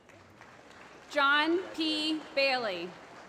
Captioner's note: applause